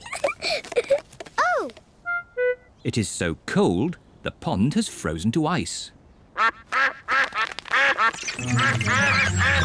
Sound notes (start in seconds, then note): 0.0 giggles; 6.3 all quack